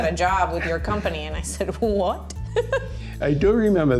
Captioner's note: laughs